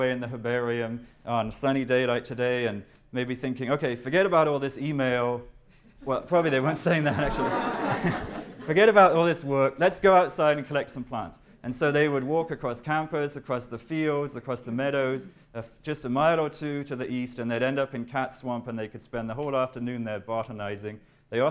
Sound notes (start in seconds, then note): 6.6 laughter